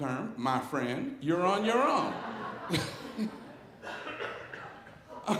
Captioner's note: audience laughing